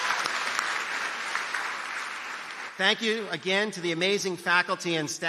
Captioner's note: applause